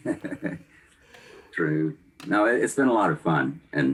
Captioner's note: laughs